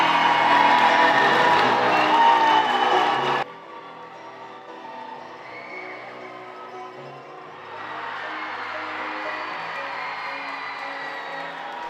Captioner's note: cheering